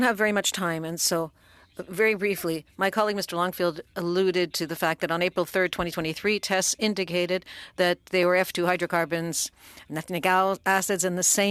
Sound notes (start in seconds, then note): 2.1 speaking French